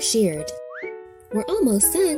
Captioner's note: air whistling